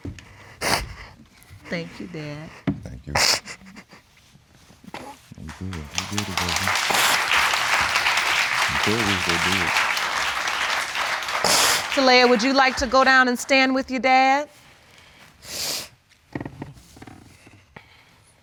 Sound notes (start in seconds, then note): 7.0 audience applauding